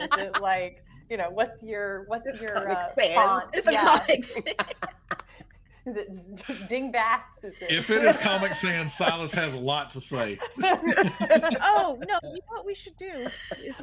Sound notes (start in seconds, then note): 5.1 people laughing; 10.8 people laughing